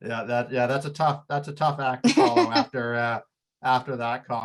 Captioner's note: laughing